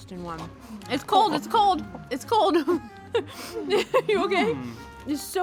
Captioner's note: giggles